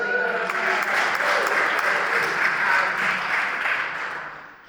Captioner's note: applause